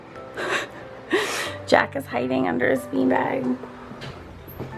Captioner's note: laughs